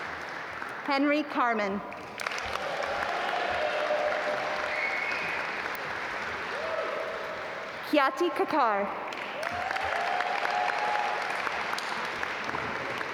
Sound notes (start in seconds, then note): 2.0 audience applaud; 9.0 audience applaud